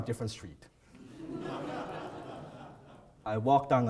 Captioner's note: audience laughs